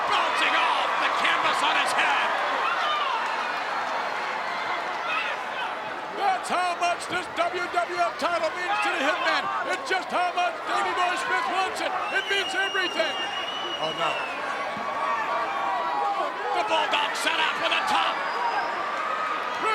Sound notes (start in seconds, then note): 2.4 crowd yelling